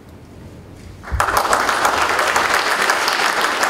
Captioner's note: applause